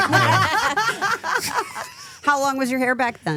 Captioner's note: laughing